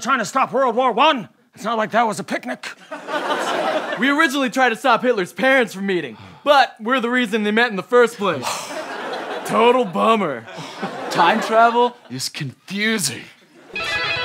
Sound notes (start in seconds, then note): 2.8 laughter; 13.6 guitars play